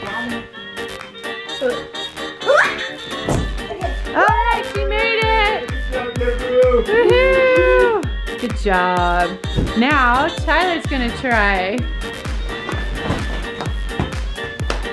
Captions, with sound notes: (screams) Alright, she made it! (cheering) Good job! Now, Tyler is gonna try. (snappy music)